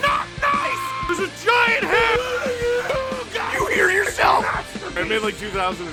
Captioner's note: Harry potter screaming; screaming